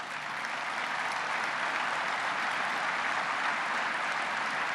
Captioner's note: applause